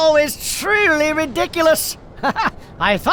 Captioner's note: chuckles